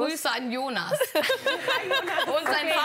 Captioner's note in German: Gelächter